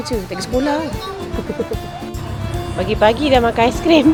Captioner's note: laugh